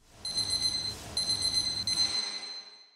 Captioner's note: beeping